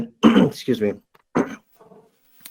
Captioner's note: clears throat